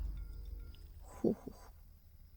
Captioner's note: eating sounds